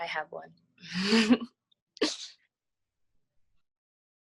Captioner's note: laughter